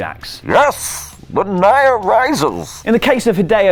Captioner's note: Bane voice